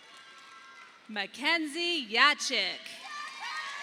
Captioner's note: audience applauding